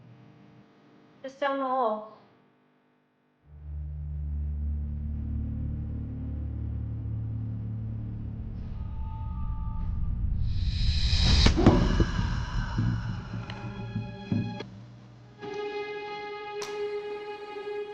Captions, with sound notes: - Just down the hall. (gentle suspenseful music) (apple thuds) (Carl grunts) (tense menacing music)